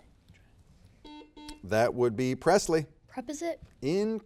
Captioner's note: buzzer beeps